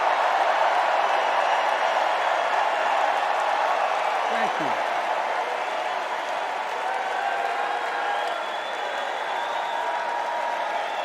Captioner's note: cheers and applause